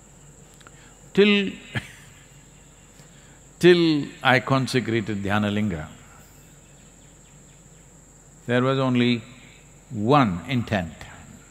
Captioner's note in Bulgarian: Смее се